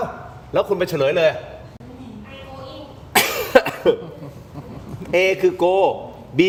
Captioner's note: laughter